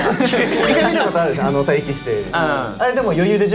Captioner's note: cheering switch on